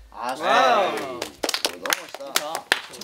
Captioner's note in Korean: 박수 갈채